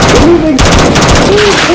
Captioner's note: full auto gunfire